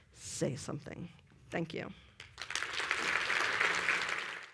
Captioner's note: applause